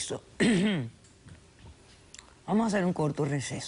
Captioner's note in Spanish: Carraspea